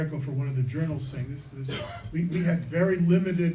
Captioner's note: coughing